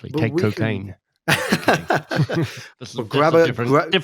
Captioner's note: both chuckling